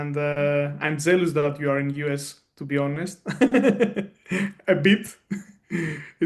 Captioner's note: laughs